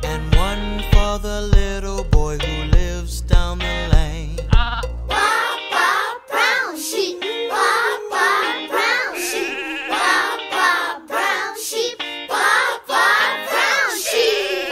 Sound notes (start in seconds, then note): 4.7 sheep bleats